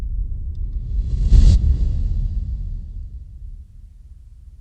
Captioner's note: low whoosh